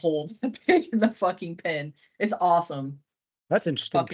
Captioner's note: chuckles